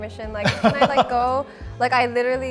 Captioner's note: laughs